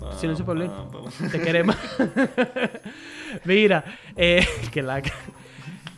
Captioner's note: laughs